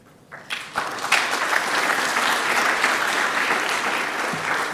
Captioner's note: audience clapping